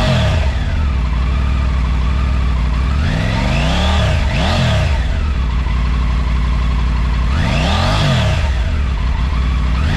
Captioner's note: exhaust sound